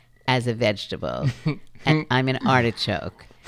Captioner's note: chuckles